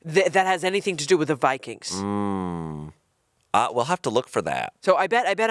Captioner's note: none